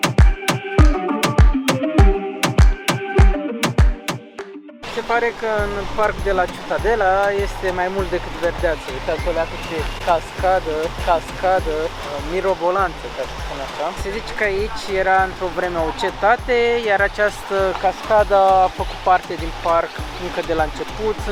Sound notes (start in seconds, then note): 11.0 waterfall